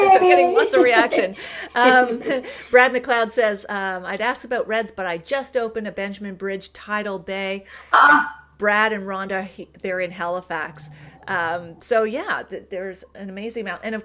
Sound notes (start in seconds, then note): 0.5 laughter